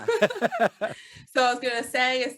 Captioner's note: both laughing